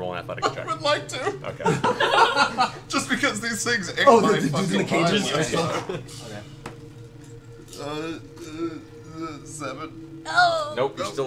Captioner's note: laughs